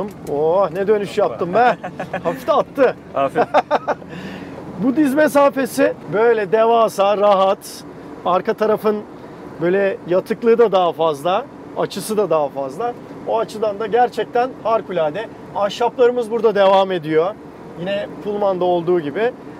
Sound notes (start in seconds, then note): 1.3 laughing